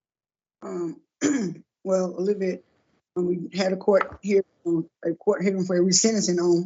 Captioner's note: cough